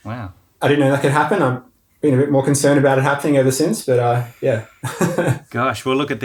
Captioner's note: laughing